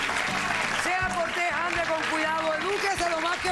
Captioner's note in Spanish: aplausos